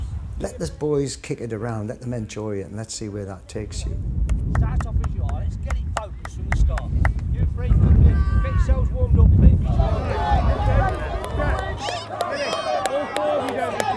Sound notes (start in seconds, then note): 6.4 heavy wind; 9.6 excited noise